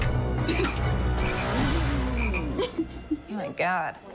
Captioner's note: vomiting; frogs croaking, Nicole crying